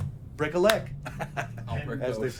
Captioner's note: laughs